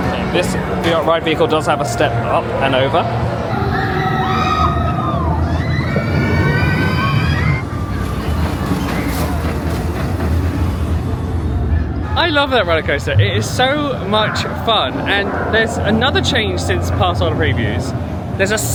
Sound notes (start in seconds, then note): 3.0 people scream; 8.1 rollercoaster rushes